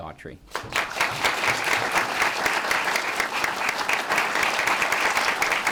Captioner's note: applause